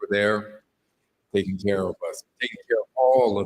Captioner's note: none